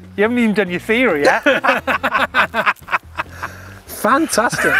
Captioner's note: laughing